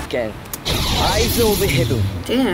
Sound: boom

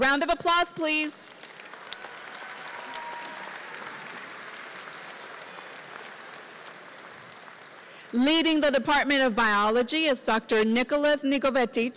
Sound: applause

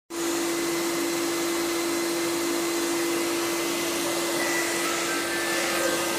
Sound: vacuum running

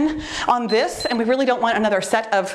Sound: timer beeps

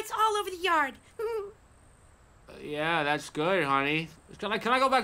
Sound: short laugh

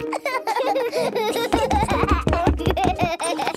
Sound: both laughing

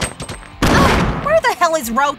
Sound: grenade explodes

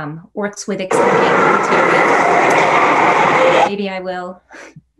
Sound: static buzzing

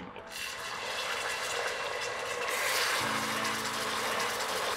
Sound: steam hissing

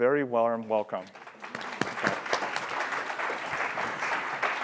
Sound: applause

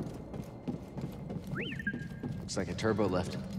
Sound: whistle, trill

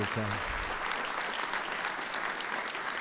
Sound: applause

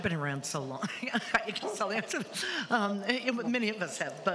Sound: laughs

